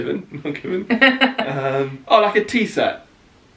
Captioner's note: laughing